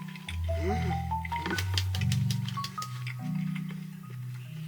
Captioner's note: amazed and clapping because it's so delicious